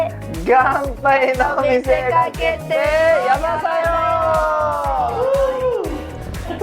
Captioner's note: cheers!